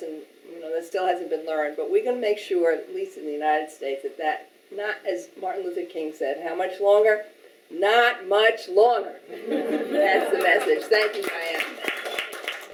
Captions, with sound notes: you know, that still hasn't been learned, but we can make sure, at least in the United States at that, not, as Martin Luther King said how much longer not much longer! [Audience laughing] That's the message. Thank you Diana.